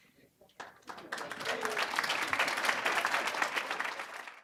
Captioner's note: applause